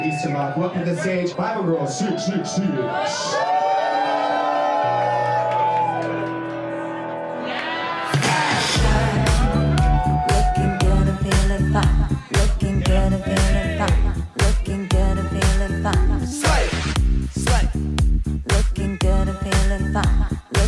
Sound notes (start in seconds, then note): 3.6 crowd cheering; 5.6 upbeat music